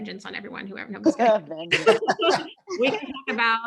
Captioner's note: all laughing